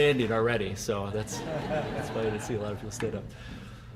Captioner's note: audience laughing